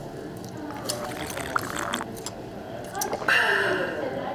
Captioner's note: slurping sound